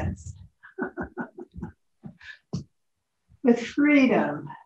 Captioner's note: laughs